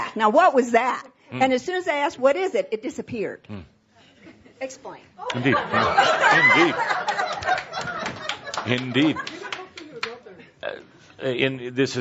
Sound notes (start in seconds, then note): 5.2 laughter